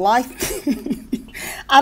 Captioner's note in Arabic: يضحك